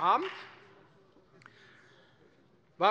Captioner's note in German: Beifall bei der FDP